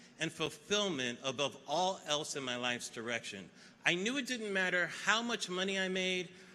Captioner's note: none